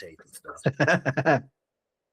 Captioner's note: laughing